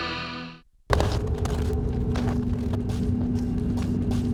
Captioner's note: heavy rock guitar; foot steps